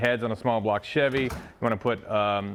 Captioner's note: door shutting